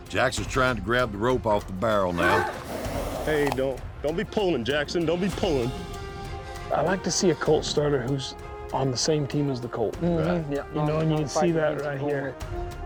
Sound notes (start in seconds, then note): 2.1 colt brays